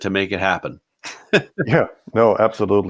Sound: laughs

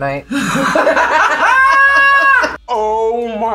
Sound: both laugh

